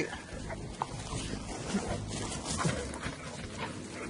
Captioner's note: dogs panting; dog yelps